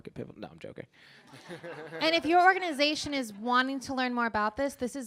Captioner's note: laughter